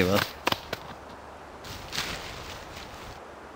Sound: wind whistling

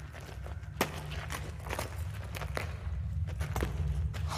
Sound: footsteps

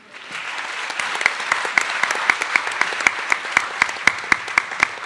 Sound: attendees applauding

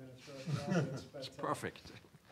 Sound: laughs

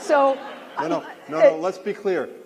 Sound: laughter

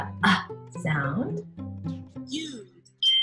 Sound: computer Voice

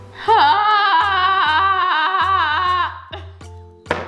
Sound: groans

